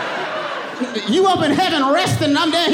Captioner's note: audience laughing